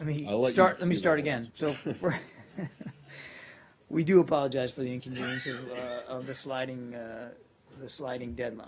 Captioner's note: laughter